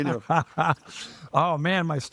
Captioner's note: laughing